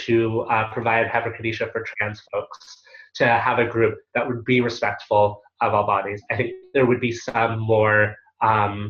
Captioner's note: Hebrew